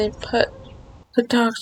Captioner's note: dog barking in distance within the video game